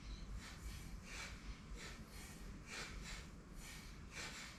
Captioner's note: rhythmic breathing